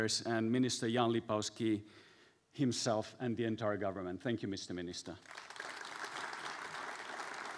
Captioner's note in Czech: Potlesk